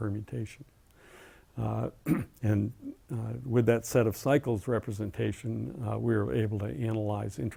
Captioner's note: cough